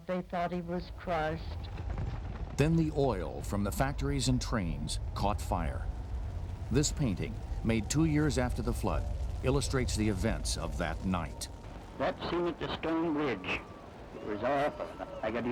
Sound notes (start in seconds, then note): 2.7 voiceover